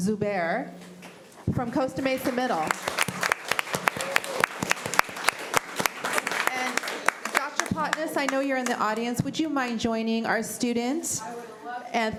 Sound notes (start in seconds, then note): 2.0 applause